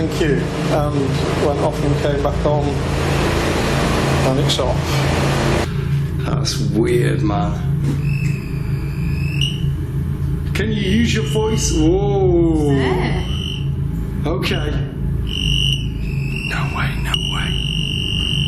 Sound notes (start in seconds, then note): 8.0 device beeping